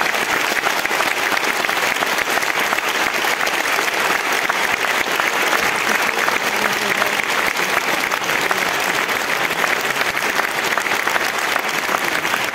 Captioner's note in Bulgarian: аплодисменти